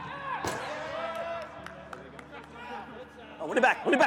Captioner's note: team chatters